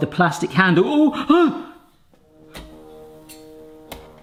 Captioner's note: groans